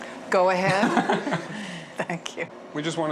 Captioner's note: laughing